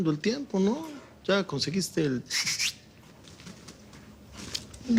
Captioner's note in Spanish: Silbido